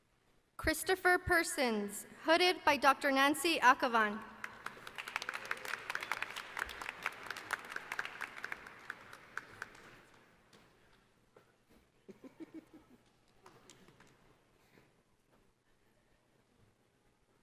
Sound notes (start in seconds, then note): 4.4 applause